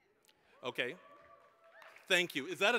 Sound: applause

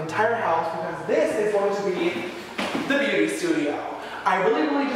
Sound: jumps on to the wooden floor

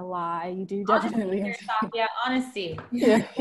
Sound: laughter

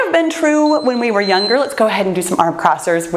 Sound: timer beeps

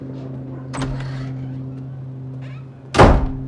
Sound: door squeaks open; door slams shut

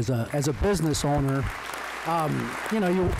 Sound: applause

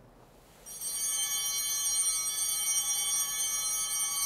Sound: bell ringing

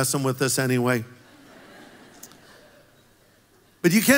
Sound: congregation laughs

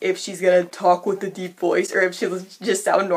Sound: deep voice

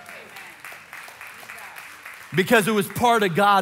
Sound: congregation cheering and applauding

